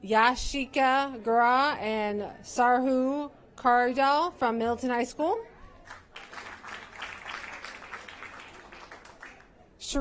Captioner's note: applause